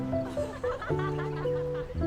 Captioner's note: پێکەنین